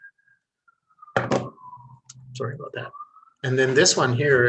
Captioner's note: sirens faintly wailing